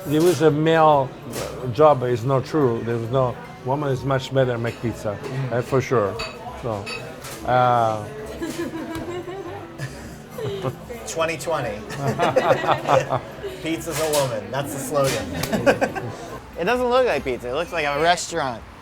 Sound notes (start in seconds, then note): 8.8 woman laughs; 11.7 men laugh